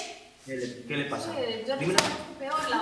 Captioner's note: Spanish